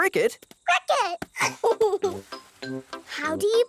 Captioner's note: giggles